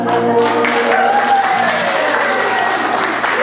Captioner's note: clapping